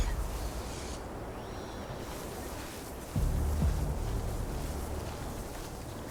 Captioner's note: thunder rumbling